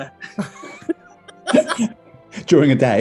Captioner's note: laughter